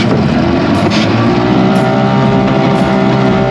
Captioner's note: engine whirs